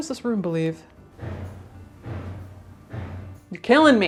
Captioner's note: metal banging